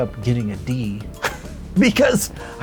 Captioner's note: laughs